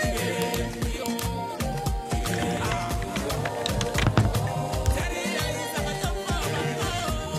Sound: typing

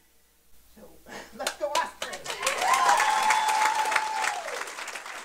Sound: applause

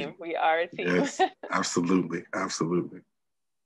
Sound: laughs

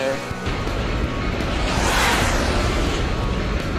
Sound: jet blast

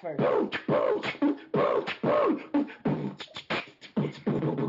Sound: beatbox percussion

